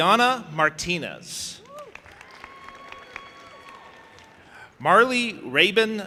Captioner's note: audience applauding and cheering